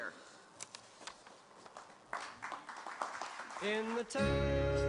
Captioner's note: applause